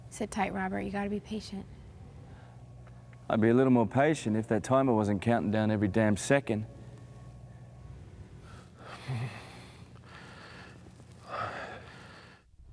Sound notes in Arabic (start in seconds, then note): 8.9 آهات